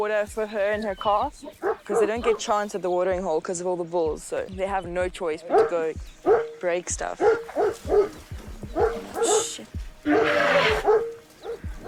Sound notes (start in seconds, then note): 7.1 dog barking; 10.0 trumpets